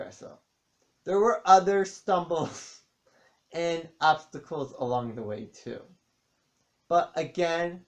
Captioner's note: chuckles